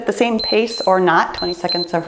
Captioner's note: timer beeps